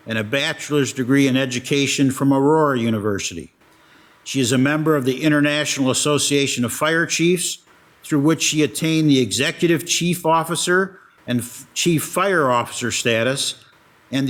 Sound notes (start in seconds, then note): none